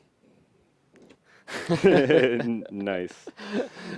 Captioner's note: laughter